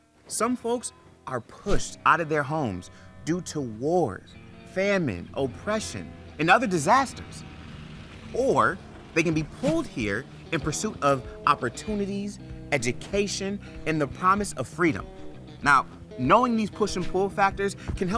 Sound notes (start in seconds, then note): 4.3 tense guitar music; 7.5 engine growling; 9.2 text whooshes